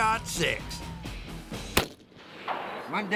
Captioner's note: gunfire